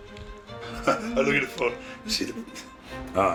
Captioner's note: laugh